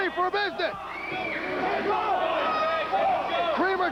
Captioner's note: crowd cheering